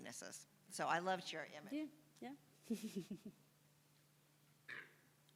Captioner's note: chuckles